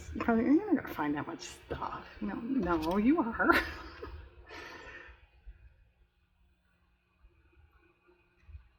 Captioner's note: laughs